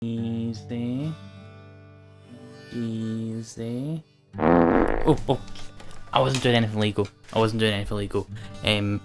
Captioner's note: fart